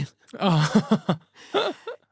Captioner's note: laughing; both laughing